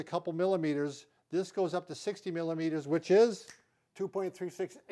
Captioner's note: snaps